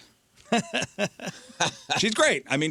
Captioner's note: laughing